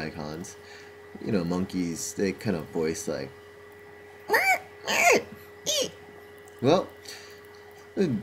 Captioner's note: mimicks monkey sound